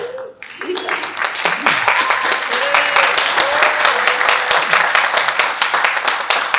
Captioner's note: audience cheering and applauding